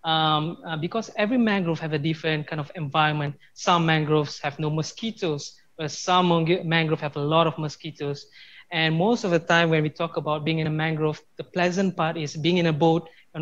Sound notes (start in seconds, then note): none